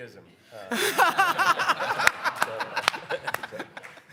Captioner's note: all laugh